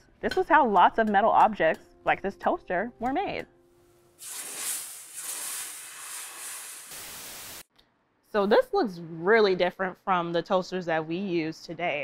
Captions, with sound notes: this was how lots of metal objects like this toaster were made. [water hissing] So, this looks really different from the toasters that we use today.